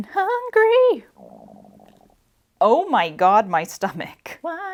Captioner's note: very loud stomach rumbling